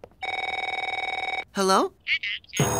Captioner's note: phone ringing